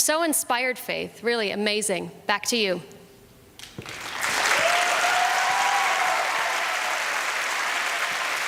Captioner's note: applause and cheering